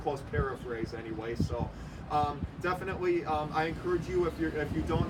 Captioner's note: vehicle making noise